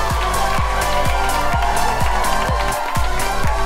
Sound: whooping and cheering

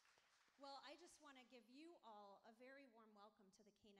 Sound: applauding

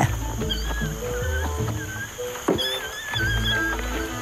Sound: orangutans moaning

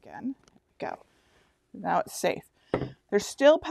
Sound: jar knocks on tabletop

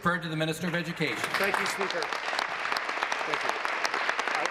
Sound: applause

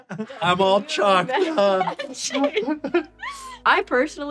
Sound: laughter

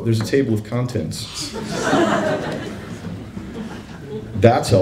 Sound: laughter

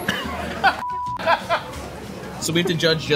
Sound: laughing

